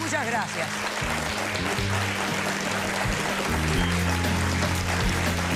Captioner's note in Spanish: Aplausos